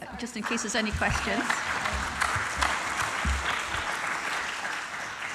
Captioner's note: audience applauding